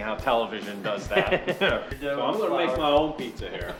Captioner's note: laughing